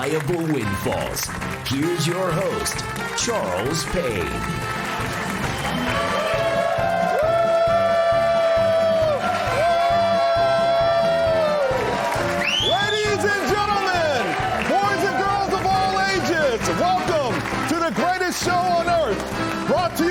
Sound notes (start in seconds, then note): 0.0 applause; 11.9 applause; 12.4 cheering